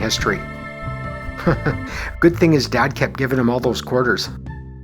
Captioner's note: chuckles